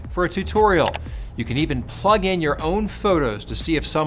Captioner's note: mouse clicking